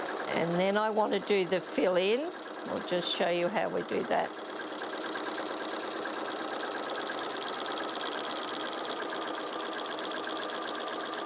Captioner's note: sewing Machine Sounds